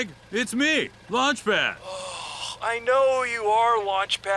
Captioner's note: frustrated